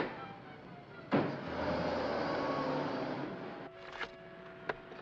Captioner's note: cab engine starts; soft whimsical music; car door closes; cab accelerates away